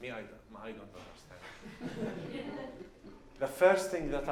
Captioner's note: laughs